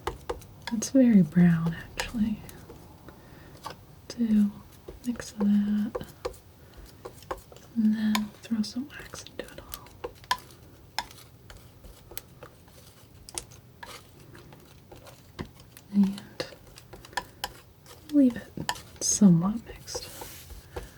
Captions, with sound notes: It's very brown actually. Do a mix of that. And then throw some wax into it all. [scratching] And leave it somewhat mixed.